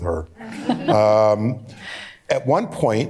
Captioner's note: laughter